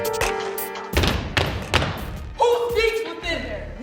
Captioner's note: stomping feet